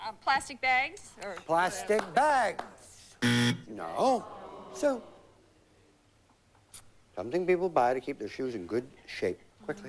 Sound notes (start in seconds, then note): 3.2 buzz